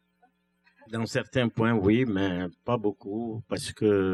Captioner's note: speaking french